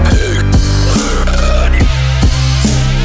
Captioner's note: boring burp; mexican burp; serious burp